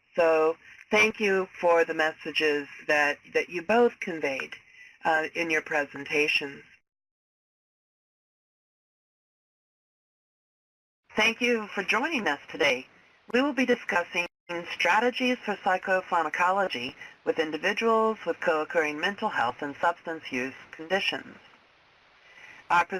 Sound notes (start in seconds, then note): 7.5 silence